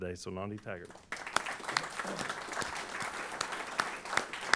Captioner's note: applause